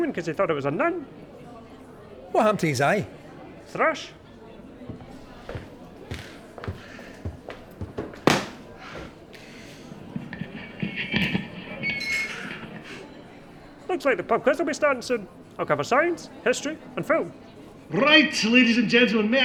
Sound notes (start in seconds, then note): 11.4 feedback ringing; 12.9 sighing